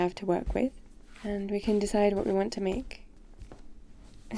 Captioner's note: footsteps